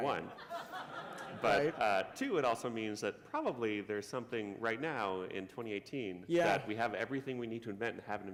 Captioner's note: laughter